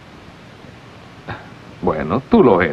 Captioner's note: chuckling